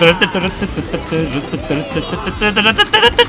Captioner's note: humming along the theme; fearful humming of the theme